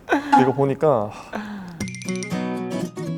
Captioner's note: sigh